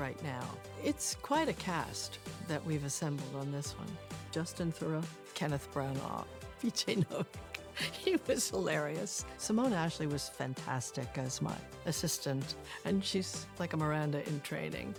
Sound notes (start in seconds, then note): 6.9 chuckling